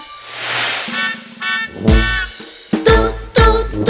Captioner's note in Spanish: Sonido de bocina